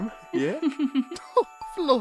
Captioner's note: candle giggles